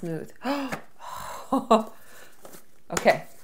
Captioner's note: gasping